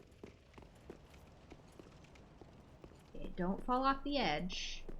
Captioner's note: footsteps